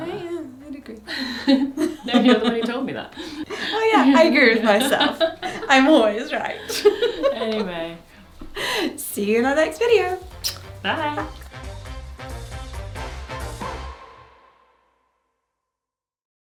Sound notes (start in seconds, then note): 6.3 both laugh; 11.7 upbeat music